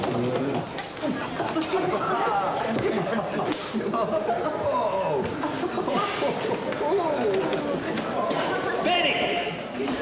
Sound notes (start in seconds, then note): 1.6 laughing; 5.5 group chattering